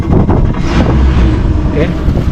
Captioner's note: engine cranking; engine running